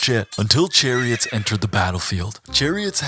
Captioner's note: horse neigh